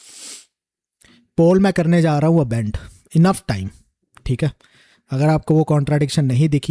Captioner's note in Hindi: नाक से की जाने वाली आवाज़